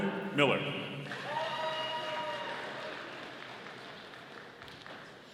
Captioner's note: audience applauding